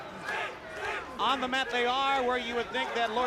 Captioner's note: crowd chatter